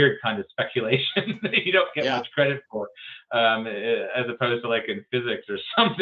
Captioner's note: laughs